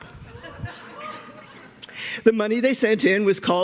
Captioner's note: laughter